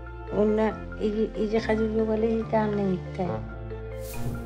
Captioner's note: woman speaks Inuktitut